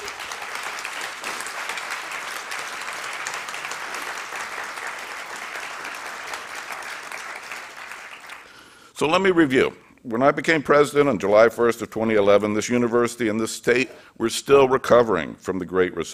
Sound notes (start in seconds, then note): 3.3 applause